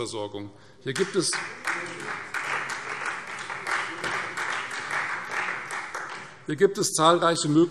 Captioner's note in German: Beifall Freie Demokraten